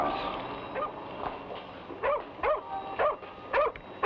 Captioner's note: dog barks